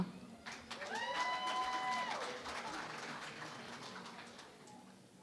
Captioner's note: cheering and Applause